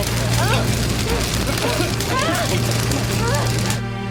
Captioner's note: coughing; whimpers